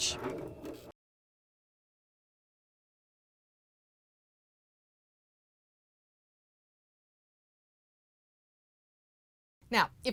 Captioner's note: no Sound Present